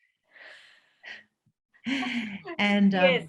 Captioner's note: both chuckle